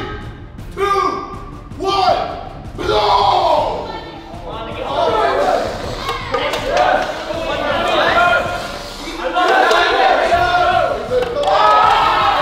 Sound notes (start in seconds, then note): 4.1 group cheering